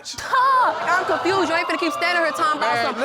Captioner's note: audience exclaiming